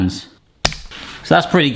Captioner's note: band snapping